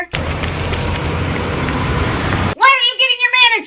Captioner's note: engines rumbling